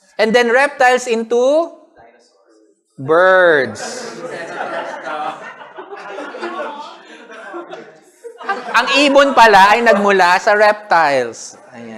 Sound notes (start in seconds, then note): 3.9 laughter